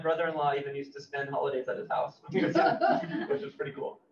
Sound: laughs

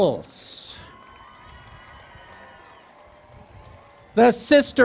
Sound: cheering and Applause

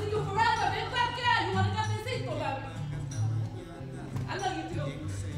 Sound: speaks in foreign language

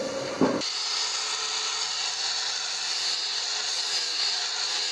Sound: grinding sound

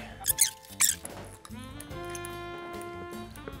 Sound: tape squealing

